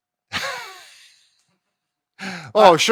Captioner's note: laughing